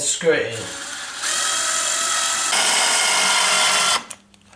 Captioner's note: drilling sound